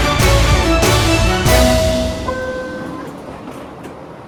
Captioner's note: subway door beeps